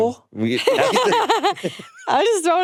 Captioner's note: laughing